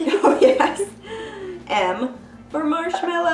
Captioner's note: laughs